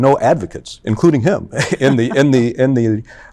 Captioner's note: chuckles